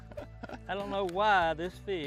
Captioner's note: laughs